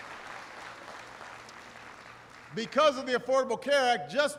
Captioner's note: applause